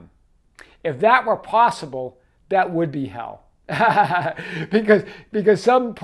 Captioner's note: laughs